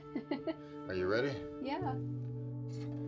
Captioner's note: Noel laughs